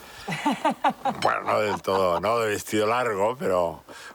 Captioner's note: giggling softly